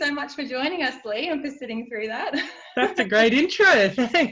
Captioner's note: chuckles